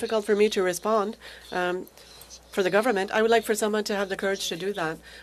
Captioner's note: speaking French